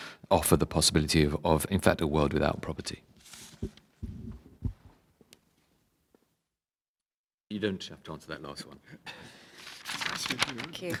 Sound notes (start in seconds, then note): 3.1 audio cuts out